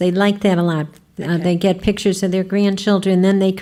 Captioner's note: voiceover